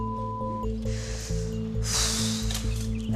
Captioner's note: exhales